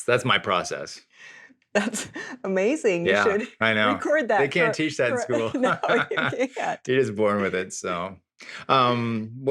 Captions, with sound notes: That's my process. - That's amazing. - Yeah, I know. - You should record that part. - They can't teach that in school. (both laughing) - No, you can't. - You're just born with it, so.